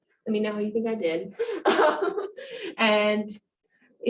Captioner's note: laughs